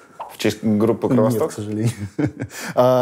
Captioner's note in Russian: смеется